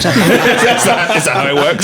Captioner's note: laughing